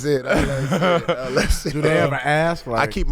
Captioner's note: laughing